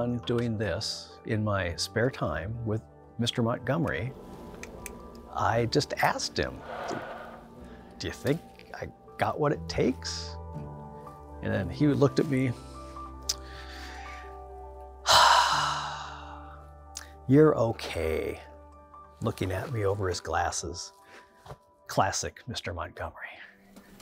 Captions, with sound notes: doing this in my spare time with Mr. Montgomery. I just asked him, "Do you think I got what it takes?" And then he looked at me. (deep sigh) "You're okay." Looking at me over his glasses. Classic, Mr. Montgomery.